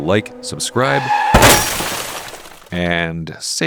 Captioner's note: tires screeching... crash sound